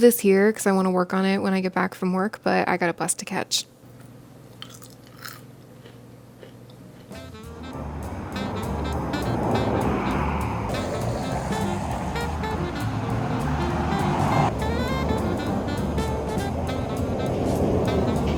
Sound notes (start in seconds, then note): 4.6 crunching a candied pecan; 8.9 energetic jazz music